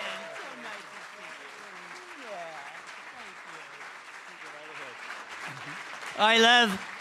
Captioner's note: cheering & Applause